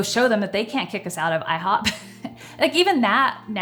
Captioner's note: chuckles